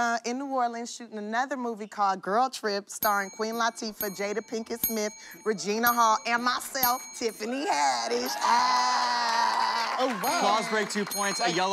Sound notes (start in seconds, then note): 8.1 cheers and applause